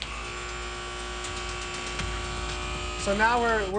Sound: buzz

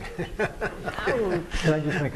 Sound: laughter

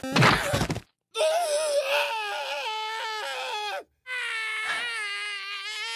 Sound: crashing sound; Mario wailing in agony

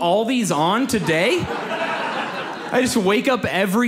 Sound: audience laughs

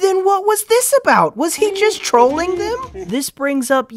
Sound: laughs in troll

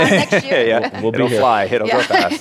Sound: laughs

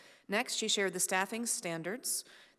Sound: none

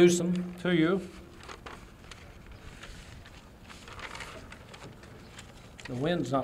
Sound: paper fluttering in the wind

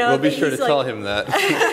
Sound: laughter

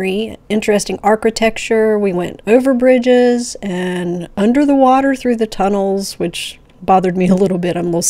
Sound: giggling

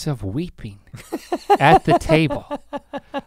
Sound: laughs

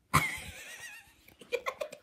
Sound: laughs

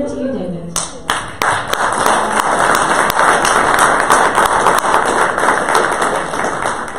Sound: audience applause

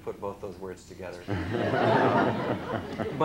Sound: laughter

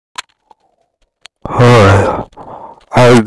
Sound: intense sucking

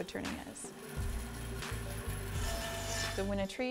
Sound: table saw buzzing

